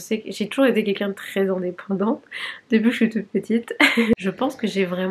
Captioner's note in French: rires